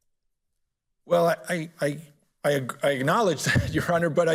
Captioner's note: laughs